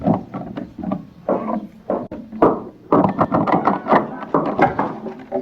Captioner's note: door knob rattling loudly